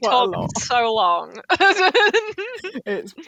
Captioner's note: laughter